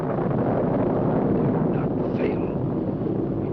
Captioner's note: thunder rumbling